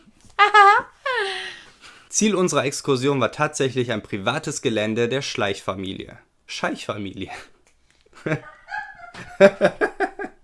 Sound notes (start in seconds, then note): 7.8 laughing in another room; 8.2 laughing